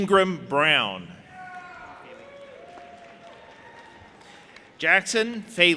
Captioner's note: audience applauding and cheering